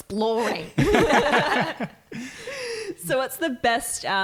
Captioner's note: laughing